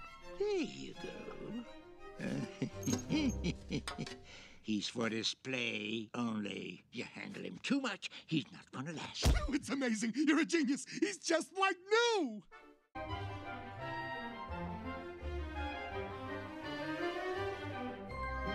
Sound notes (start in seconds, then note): 2.1 laughing